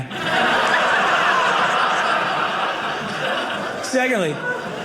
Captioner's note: audience laughing